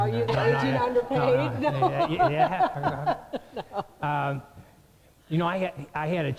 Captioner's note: more general laughter